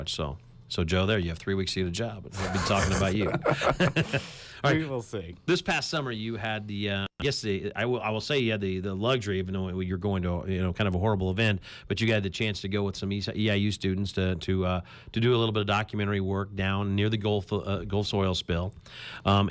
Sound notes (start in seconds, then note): 3.9 lauging